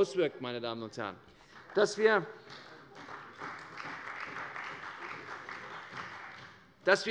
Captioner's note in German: Beifall bei der CDU